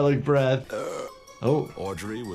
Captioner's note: man belching